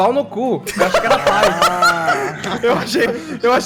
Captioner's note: laughing hysterically